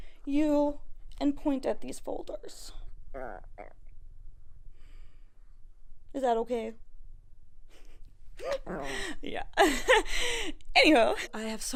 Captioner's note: gizmo murmurs